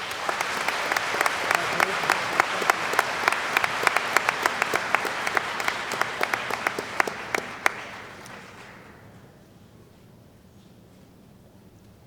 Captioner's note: applause